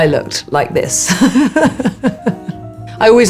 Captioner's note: Alexa laughing